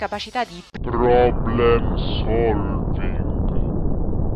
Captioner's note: nuke goes off in the distance